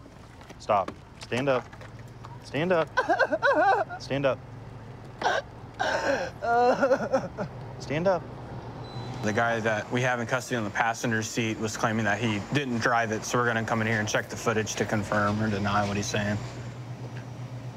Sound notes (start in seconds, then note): 5.8 crying